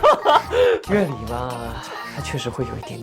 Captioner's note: still such powerful laughter